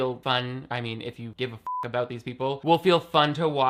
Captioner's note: beep